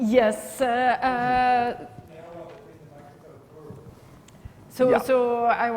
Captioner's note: man speaking softly